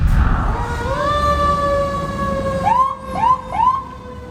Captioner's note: sirens blaring